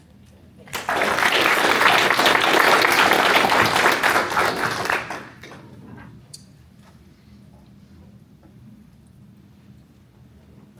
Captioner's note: applause